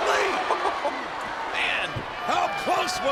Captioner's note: King chuckles